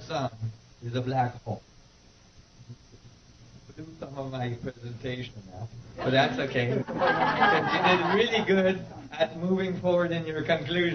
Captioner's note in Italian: risate